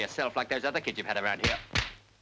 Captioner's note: hand slapping